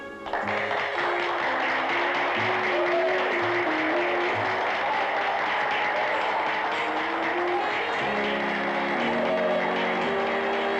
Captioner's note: applause; light orchestral music plays